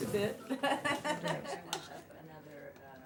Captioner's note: laughs